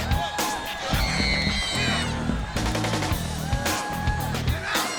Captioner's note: Crowbar shouting; Daffney screaming; hard rock music